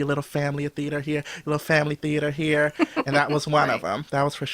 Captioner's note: laughs